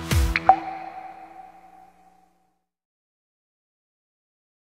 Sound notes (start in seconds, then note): 0.3 bubble pops